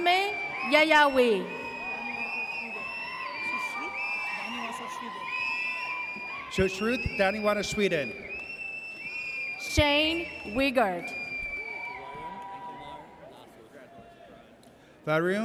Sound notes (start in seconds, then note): 2.5 audience cheers; 8.7 audience cheers; 11.3 audience cheers